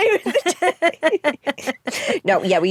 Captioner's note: both laugh